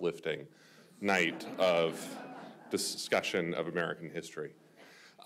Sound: speaking over audience laughter

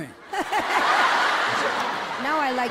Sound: all laughing

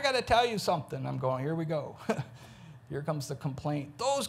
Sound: chuckles

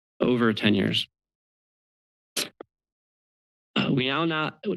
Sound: pause

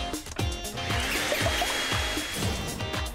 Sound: upbeat music; whirring

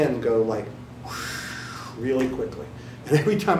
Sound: imitates flopping balloon

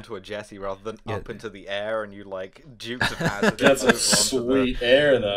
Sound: laughter

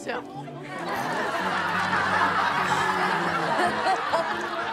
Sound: crowd laughs

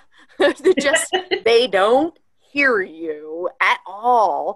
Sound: laughter

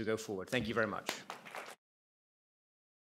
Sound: applause

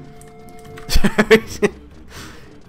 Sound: laughs

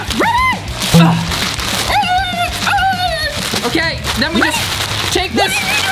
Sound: yelling

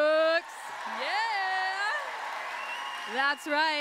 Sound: applause

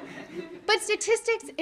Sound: audience laughing

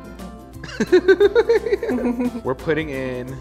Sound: laughs

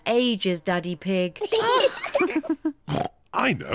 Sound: kids and mummy pig laugh; oinks

